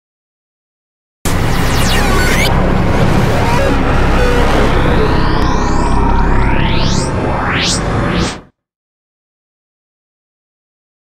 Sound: sound of science fiction

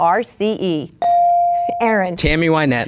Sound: bell dinging

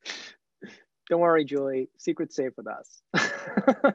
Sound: laughs

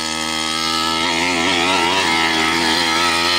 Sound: engine roars

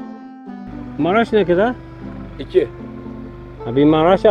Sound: speaking Turkish

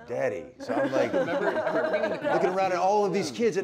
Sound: laughter

